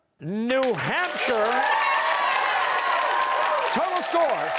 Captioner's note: cheers and applause